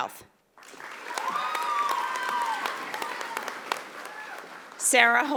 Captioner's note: audience applauding